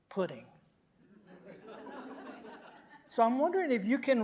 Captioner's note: audience laughing